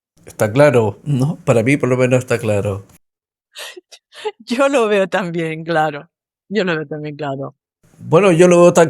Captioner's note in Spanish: risas